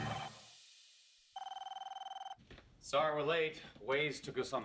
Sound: phone ringing

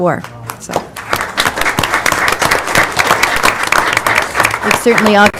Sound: applause

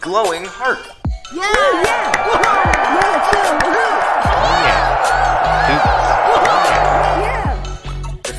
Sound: cheering

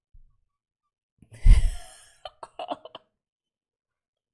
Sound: laughs

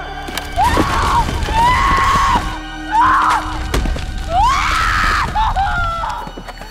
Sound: Karolina screams; Karolina screaming in foreign language

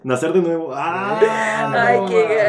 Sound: laughter

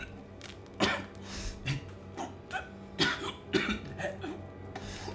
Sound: coughs, struggles to speak

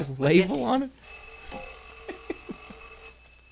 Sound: phone rings; chuckles

